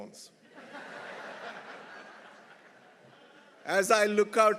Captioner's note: everyone laughing